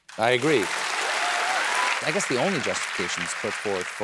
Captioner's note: cheering and applause